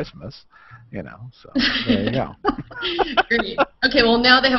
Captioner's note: laughter